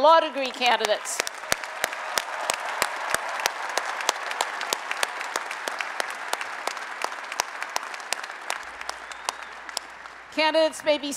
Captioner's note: applause and Cheering